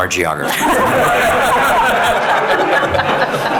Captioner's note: all laughing